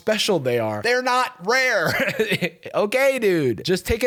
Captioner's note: laughs